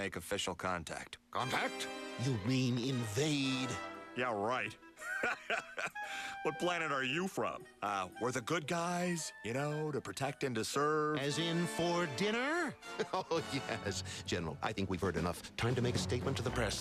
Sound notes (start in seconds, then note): 5.0 laughs